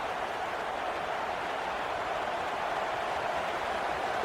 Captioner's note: crowd cheering